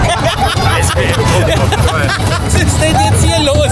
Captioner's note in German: gelächter